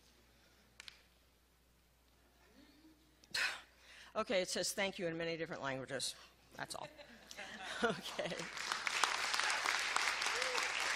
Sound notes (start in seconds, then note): 6.9 laughing; 8.2 applause